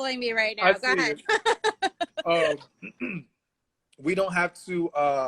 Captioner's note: laughs